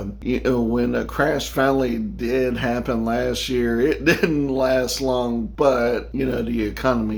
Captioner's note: laughing